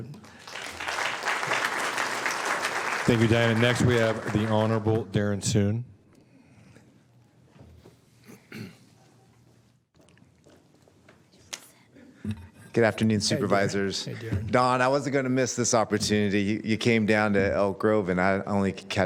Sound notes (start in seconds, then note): 5.9 applause